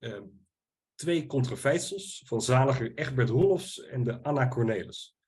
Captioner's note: speaking Dutch